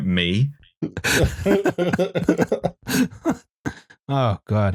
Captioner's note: laughter